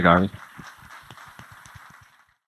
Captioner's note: applause